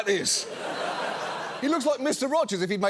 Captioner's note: studio audience laughing